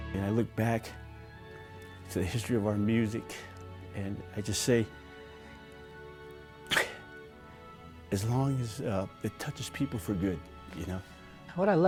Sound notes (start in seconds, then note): 6.7 crying